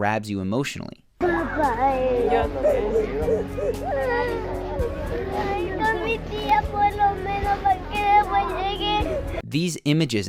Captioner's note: kids crying talking in Spanish